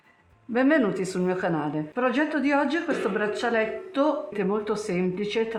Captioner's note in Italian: schiarire la voce